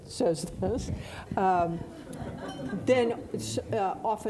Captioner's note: audience laughing